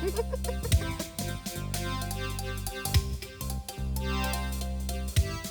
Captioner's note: Kondi laughs, upbeat music